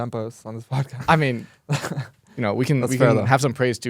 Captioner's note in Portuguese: risos